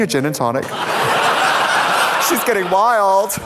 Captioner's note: audience laughs